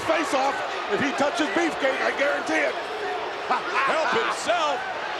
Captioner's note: laughs